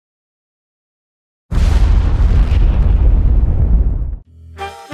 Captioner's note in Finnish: räjähdys